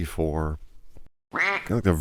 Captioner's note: quack sound